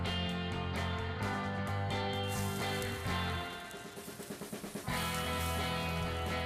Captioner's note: steak sizzles